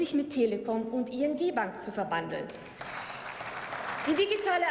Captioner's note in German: Beifall